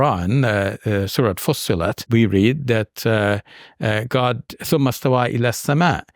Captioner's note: speaking in Arabic